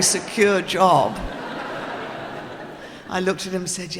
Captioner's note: audience laughing